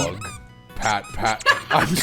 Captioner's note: pat, pat; laughter